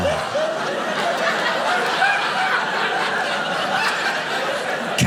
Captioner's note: audience laughing